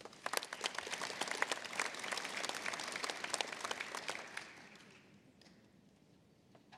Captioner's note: applause